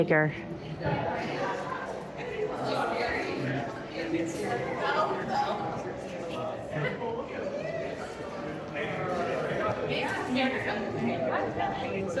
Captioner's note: chatter